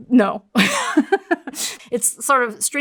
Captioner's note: laughs